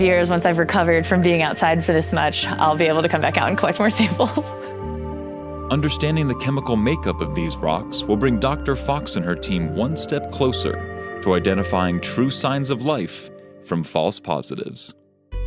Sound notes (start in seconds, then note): 4.6 laughing